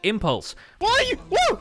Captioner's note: haunting music; chanting; screaming